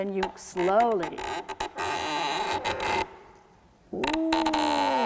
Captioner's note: creaking